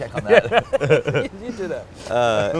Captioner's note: laughs